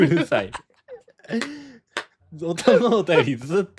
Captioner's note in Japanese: 笑い